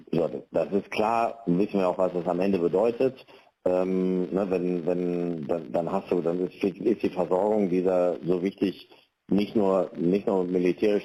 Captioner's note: speaking dutch language